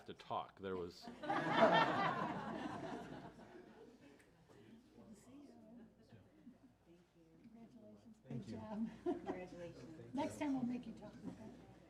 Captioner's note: laughing